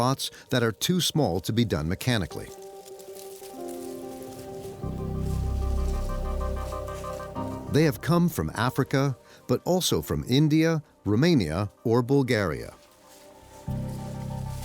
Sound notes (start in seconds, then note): 3.9 leaves crunching